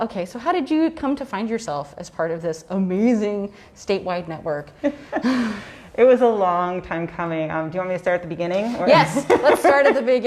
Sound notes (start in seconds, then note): 5.4 laughs